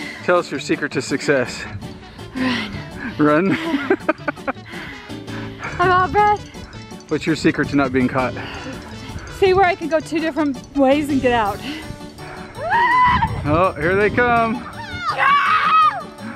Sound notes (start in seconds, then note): 3.4 laughter; 12.6 screams